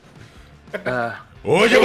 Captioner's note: laughs